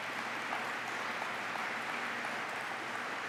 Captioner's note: applause